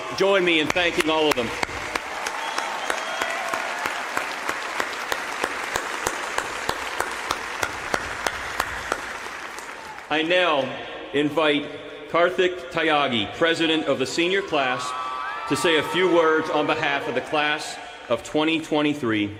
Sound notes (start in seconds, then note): 6.3 applause